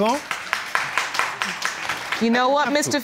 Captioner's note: applause